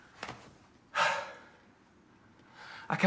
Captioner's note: sighs